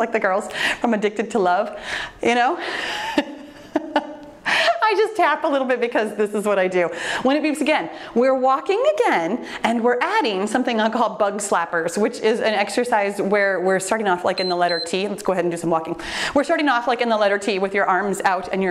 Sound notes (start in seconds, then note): 2.9 laughs; 14.3 timer beeps